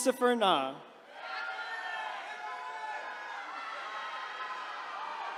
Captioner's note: attendees cheering